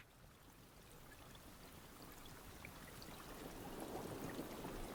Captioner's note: rain falling